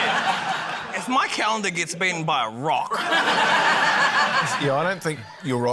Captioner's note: laughter